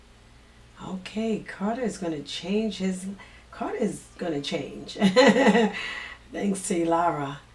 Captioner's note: laughing